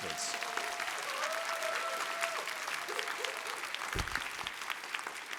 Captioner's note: applause